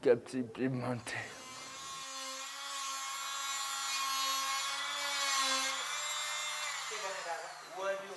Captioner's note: drill noise; voices speaking Nepalese